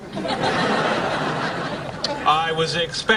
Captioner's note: laughing